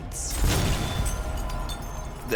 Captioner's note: glass breaks